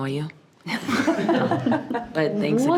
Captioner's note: participants laughing